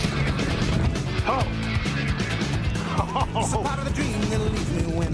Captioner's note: laughs